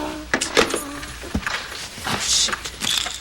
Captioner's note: door unlocking